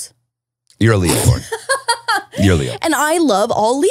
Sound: laughing

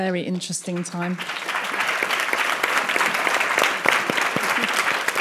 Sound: audience clapping

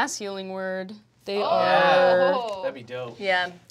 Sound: group shouts

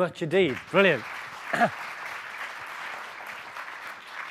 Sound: clapping

